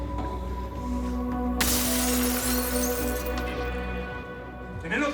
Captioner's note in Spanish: Estrépito de vidrios rotos